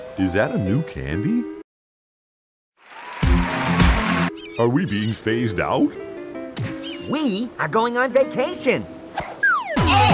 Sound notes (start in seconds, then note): 2.9 cheering; 9.8 loud screaming